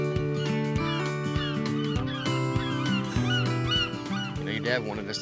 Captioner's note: seagulls squawking